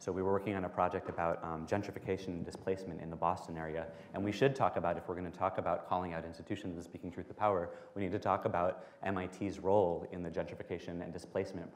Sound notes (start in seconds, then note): none